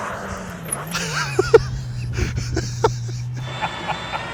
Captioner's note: laughs